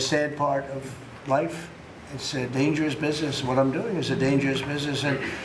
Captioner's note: laughter